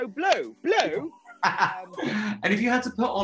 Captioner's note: laughing